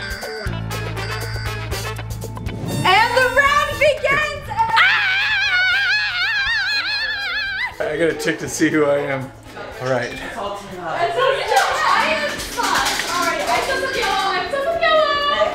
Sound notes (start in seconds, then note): 4.6 screaming